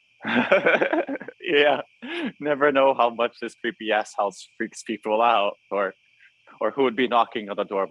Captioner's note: Joseph laughs